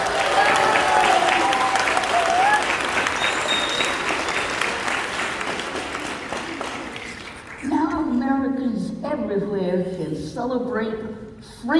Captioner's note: cheers and Applause